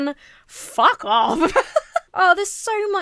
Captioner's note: laughs